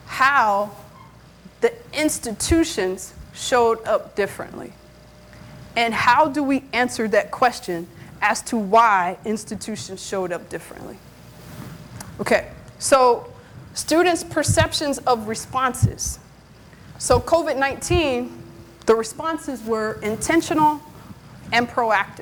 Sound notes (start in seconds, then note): none